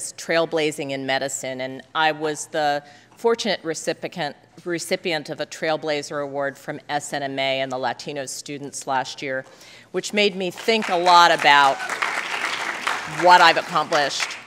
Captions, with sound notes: "Trailblazing in Medicine" and I was the fortunate recipient of a Trailblazer Award from SNMA and the Latino students last year, which made think a lot about (applause) what I've accomplished.